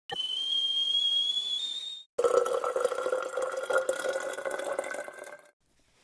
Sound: sound of kettle boiling and water pouring

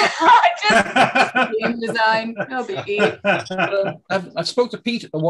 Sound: laughing

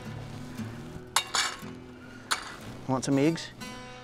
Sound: dog bowl clanking

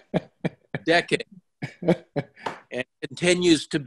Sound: laughs

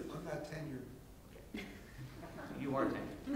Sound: laughing

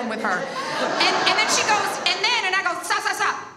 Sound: audience laughs

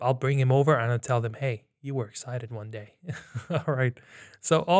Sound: chuckles

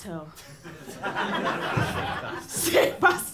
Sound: laughter

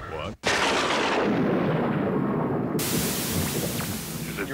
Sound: thunder crashing

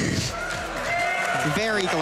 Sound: applause

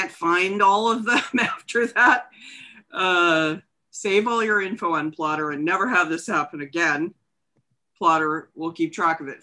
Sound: chuckles

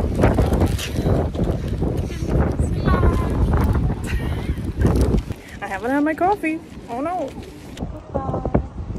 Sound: windy

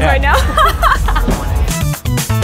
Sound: laughter

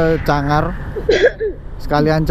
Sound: cough

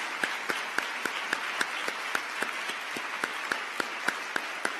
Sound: applause

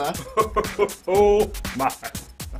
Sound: laughs

